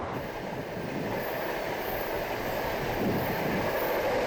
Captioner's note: train rumbling